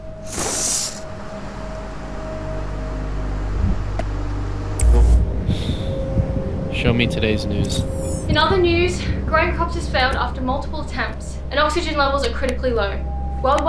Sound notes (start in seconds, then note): 1.3 waves crashing